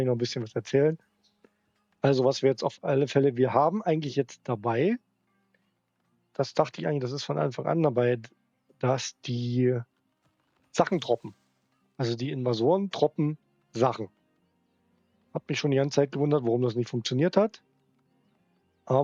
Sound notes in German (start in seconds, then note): none